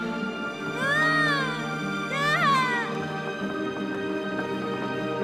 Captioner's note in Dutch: Catherine schreeuwt